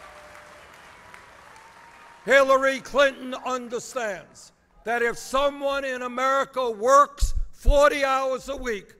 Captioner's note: applause